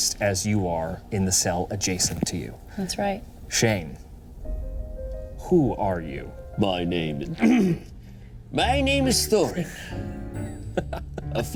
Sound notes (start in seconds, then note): 7.4 clears throat; 9.6 laughs; 10.3 playful music